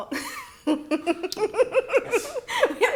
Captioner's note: laughing